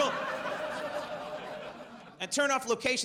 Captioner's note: audience laughs